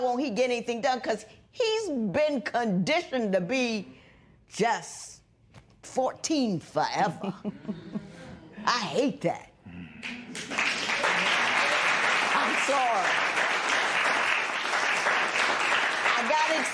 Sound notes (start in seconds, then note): 7.9 spectators murmur; 13.1 applause